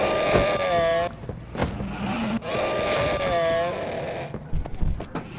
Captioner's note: engine revving